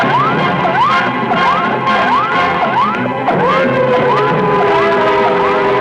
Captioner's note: dramatic music; electronic beeping